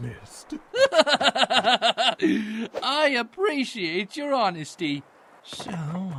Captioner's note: laughs